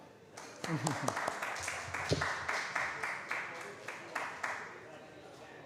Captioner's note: applause